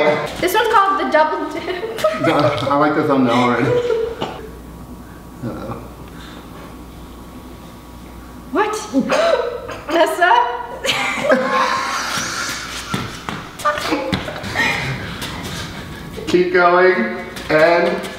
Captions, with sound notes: This one is called the Double Dip. I like the thumbnail already. What? Nessa! (Laughs) Keep going. And...